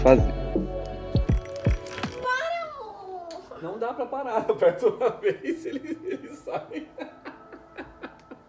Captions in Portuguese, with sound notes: PARA AMOR! Não da pra parar...eu aperto uma vez... e... ele sai... (risos)